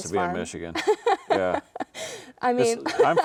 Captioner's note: laughing